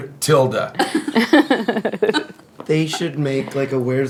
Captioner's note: laughing